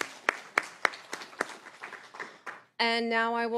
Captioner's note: applause